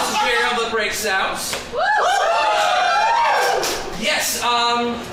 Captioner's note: cheering